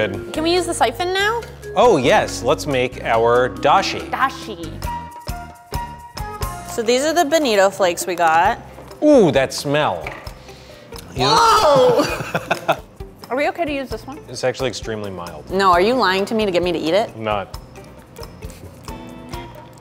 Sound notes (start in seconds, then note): 5.0 bouncy flute music; 11.3 laughs